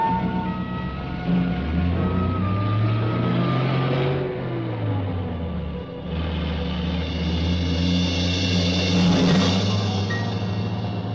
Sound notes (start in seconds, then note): 2.4 engine rumbling; 8.0 suspenseful music